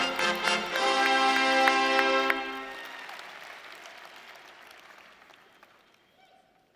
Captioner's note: audience cheering and applauding